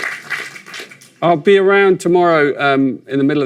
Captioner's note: sound of applause